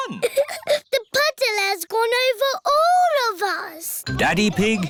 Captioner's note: laughs